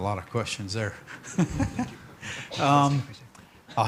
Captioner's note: chuckles